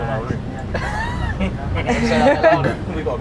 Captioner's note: laughing